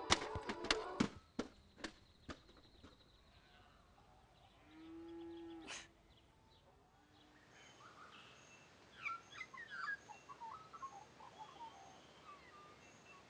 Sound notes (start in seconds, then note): 0.3 radio crashing; 3.4 birds chirping; 4.8 cows mooing